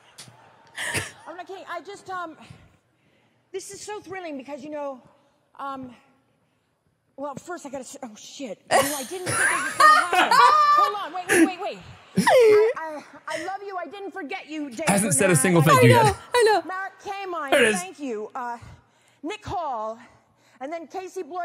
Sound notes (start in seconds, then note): 9.4 everyone laughs